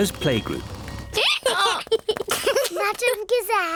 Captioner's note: brays; both giggle